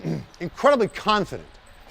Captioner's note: clears throat